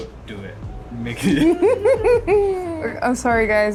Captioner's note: laughing